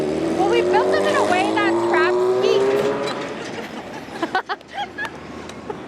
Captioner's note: laughs